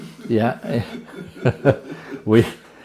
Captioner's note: laughter